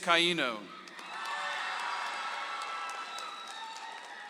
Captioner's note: audience applauds